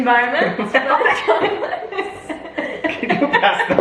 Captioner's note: family laughs